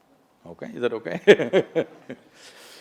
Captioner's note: laughs